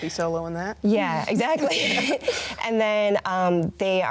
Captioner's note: both laugh